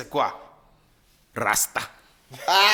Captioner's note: everybody laughs